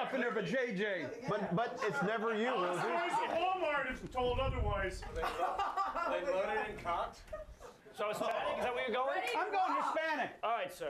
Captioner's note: audience random shouts